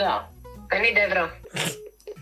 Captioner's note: laughs